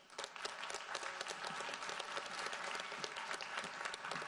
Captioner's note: audience applauds